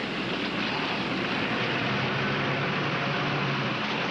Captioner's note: car approaching